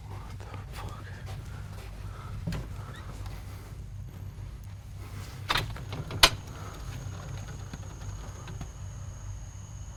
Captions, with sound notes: What the fuck? (screen door clicks)